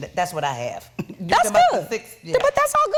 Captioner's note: Wendy chuckling